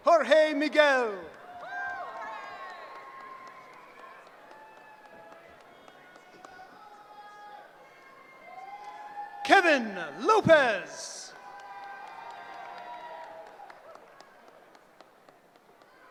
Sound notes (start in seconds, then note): 0.9 cheering; 10.6 cheering